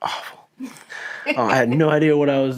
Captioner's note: laughing